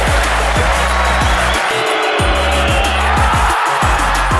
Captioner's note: crowd cheers